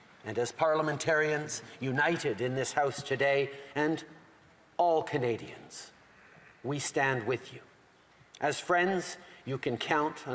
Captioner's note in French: voix de l'interprète